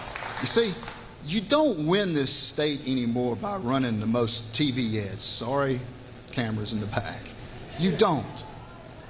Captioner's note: applause